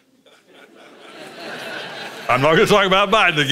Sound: congregation laughs

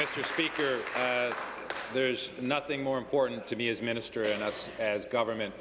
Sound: applause

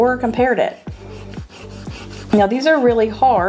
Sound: eraser rubbing

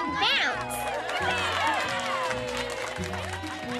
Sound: applause and cheering

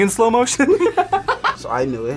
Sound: both laugh

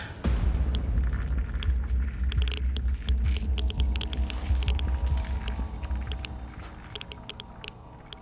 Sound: suspenseful music; reactivity meter popping; reactivity meter popping

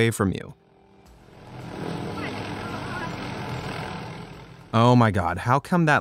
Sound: helicopter chuffing

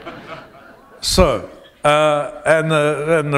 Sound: laughter

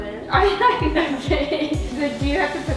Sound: laughing

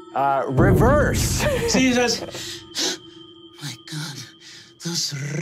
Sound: gasps

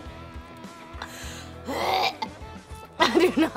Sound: gagging

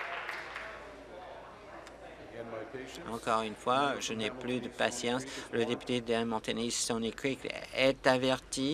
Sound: applause

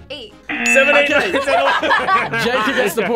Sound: both laugh

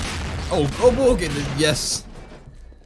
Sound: stammering

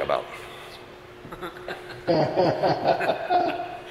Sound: all laughing

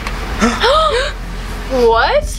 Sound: all gasp

